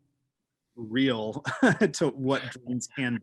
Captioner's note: laughing